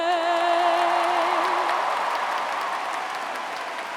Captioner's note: applause